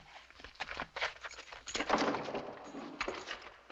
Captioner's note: gunshot